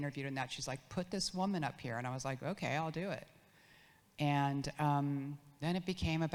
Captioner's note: none